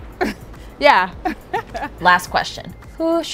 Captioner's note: laughs